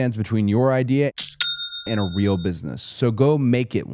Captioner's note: cash register chimes